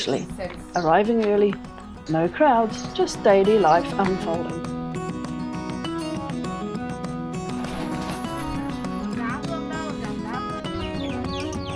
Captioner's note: chickens clucking